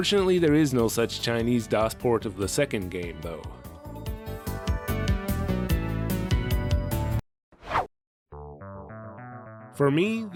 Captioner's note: whoosh